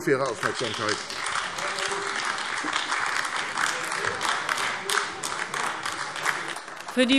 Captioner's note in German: Beifall AfD